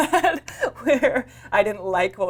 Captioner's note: laughs